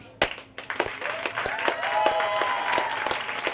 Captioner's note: applause